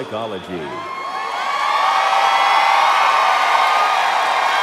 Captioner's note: crowd applauds